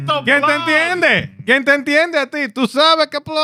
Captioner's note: speaking In Foreign Language